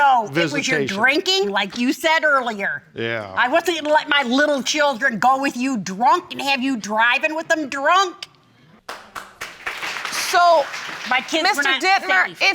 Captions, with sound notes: No. It was your drinking, like you said earlier. Yeah. I wasn't gonna let my little children go with you drunk, and have you driving with them drunk. (AUDIENCE APPLAUDS) So, Mr. Dittmer,